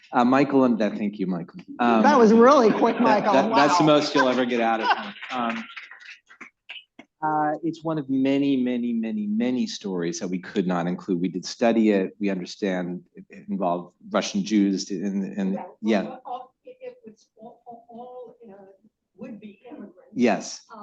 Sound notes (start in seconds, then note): 2.4 laughter; 4.8 applause